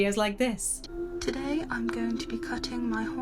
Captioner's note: woman's Voice